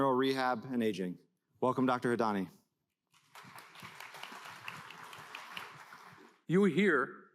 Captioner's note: applause